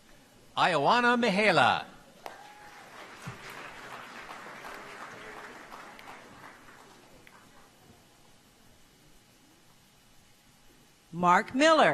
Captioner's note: applause